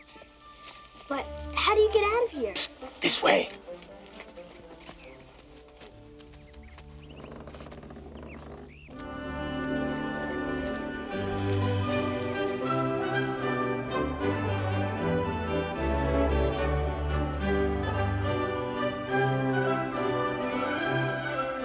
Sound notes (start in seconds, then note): 7.1 door creaking; 10.6 cheerful orchestral music